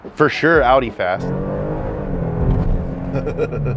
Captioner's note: car engine revving; laughs